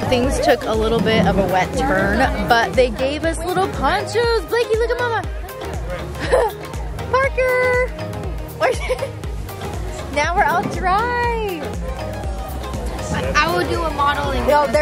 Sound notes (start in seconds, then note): 5.8 chuckles